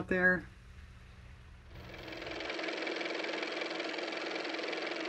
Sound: car motor

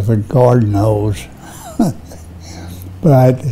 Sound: laughs

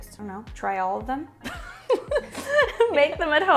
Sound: laughs

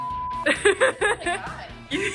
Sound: laughs

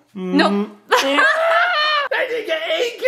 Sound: more disappointed dad noises

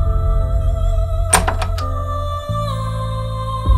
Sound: door opening; sentimental music playing

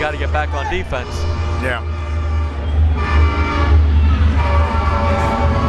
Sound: train whistles

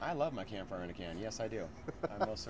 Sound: lauging

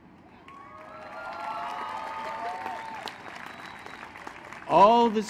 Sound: applause

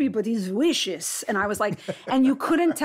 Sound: laughs

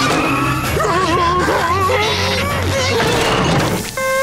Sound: yelling

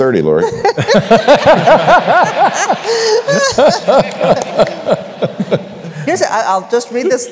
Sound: laughter

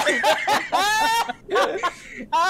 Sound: laughter

